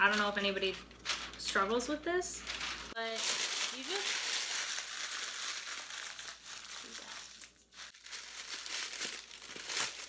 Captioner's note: crumples parchment paper